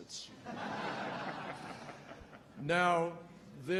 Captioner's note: laughter